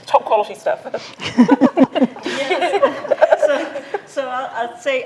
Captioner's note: group laughs